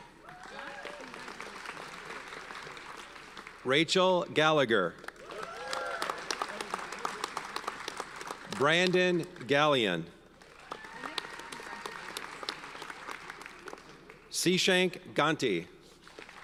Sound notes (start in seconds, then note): 0.0 audience applauds; 5.1 audience cheers and applauds; 10.4 audience cheers and applauds; 16.1 audience applauds